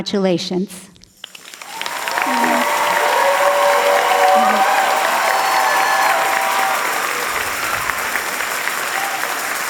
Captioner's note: applause and cheers